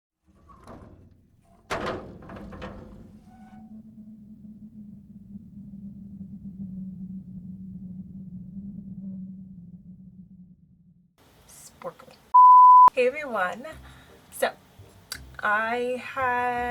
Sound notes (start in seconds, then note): 0.2 door creaking open; 3.7 eerie wind blows; 12.3 beep